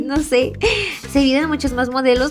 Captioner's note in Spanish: suspiro